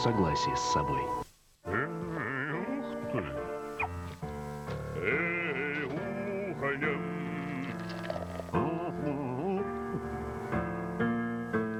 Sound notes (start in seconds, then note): 1.7 playful music; 10.1 moos